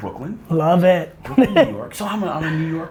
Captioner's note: laughs